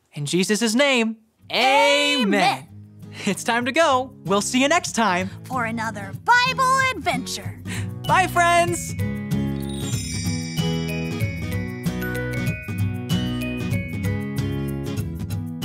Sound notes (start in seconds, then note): 8.5 stars sparkles; 11.1 bright music